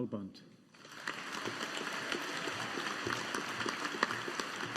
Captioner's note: audience applauding